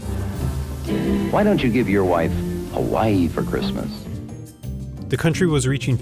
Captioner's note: cheesy 60s announcer